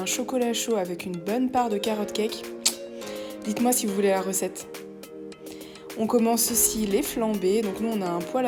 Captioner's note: sound of mouth